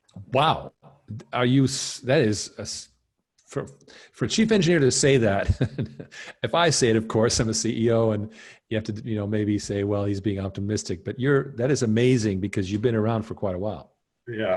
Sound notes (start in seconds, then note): 5.2 laughing